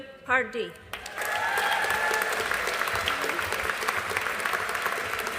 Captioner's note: audience applauding